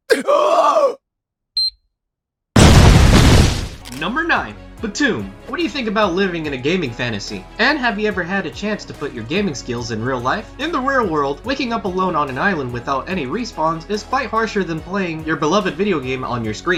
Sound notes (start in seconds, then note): 0.0 man Screaming; 2.5 explosion